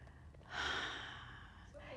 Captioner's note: sighs